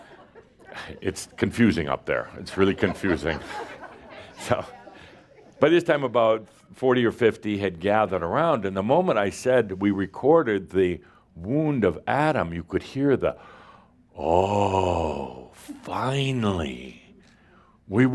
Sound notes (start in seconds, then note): 2.6 more laughter